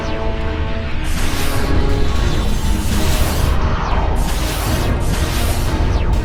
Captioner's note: lasers and explosions